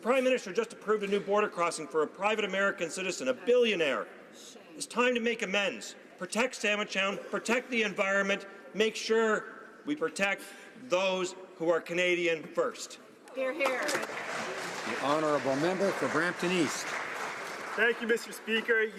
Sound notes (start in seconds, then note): 16.6 some Applause